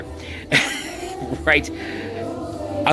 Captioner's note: laughing